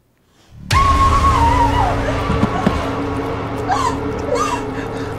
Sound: terrified shrieking

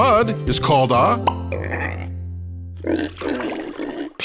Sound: oinking

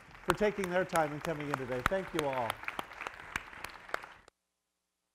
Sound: applause

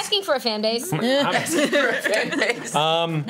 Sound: laughs

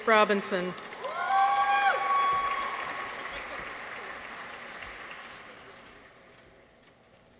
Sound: people cheer; audience applauds

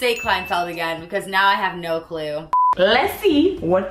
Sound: beep

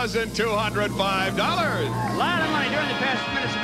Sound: audience applauding

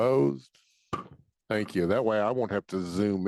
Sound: gavel thudding

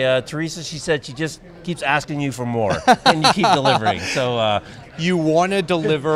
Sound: laughing

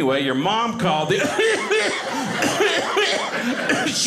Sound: coughing

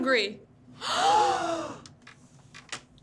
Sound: audience gasps

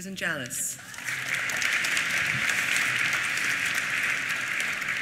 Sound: applause

